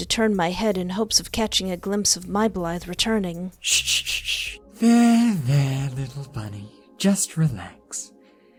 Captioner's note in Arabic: صششش